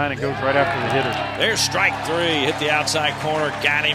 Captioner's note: voiceover